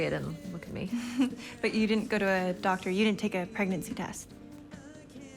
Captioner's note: chuckles